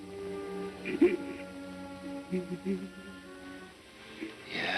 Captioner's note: sobbing